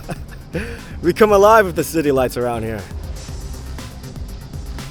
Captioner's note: laughs